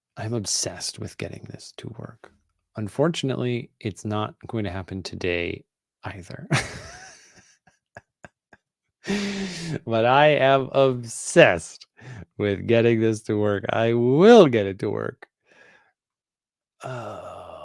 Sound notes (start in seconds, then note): 6.5 chuckles